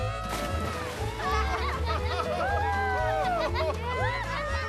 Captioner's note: yelling; laughing and cheering